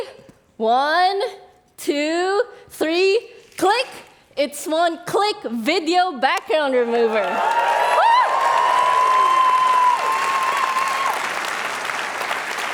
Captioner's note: applause